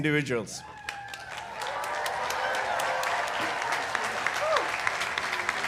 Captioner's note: audience applauding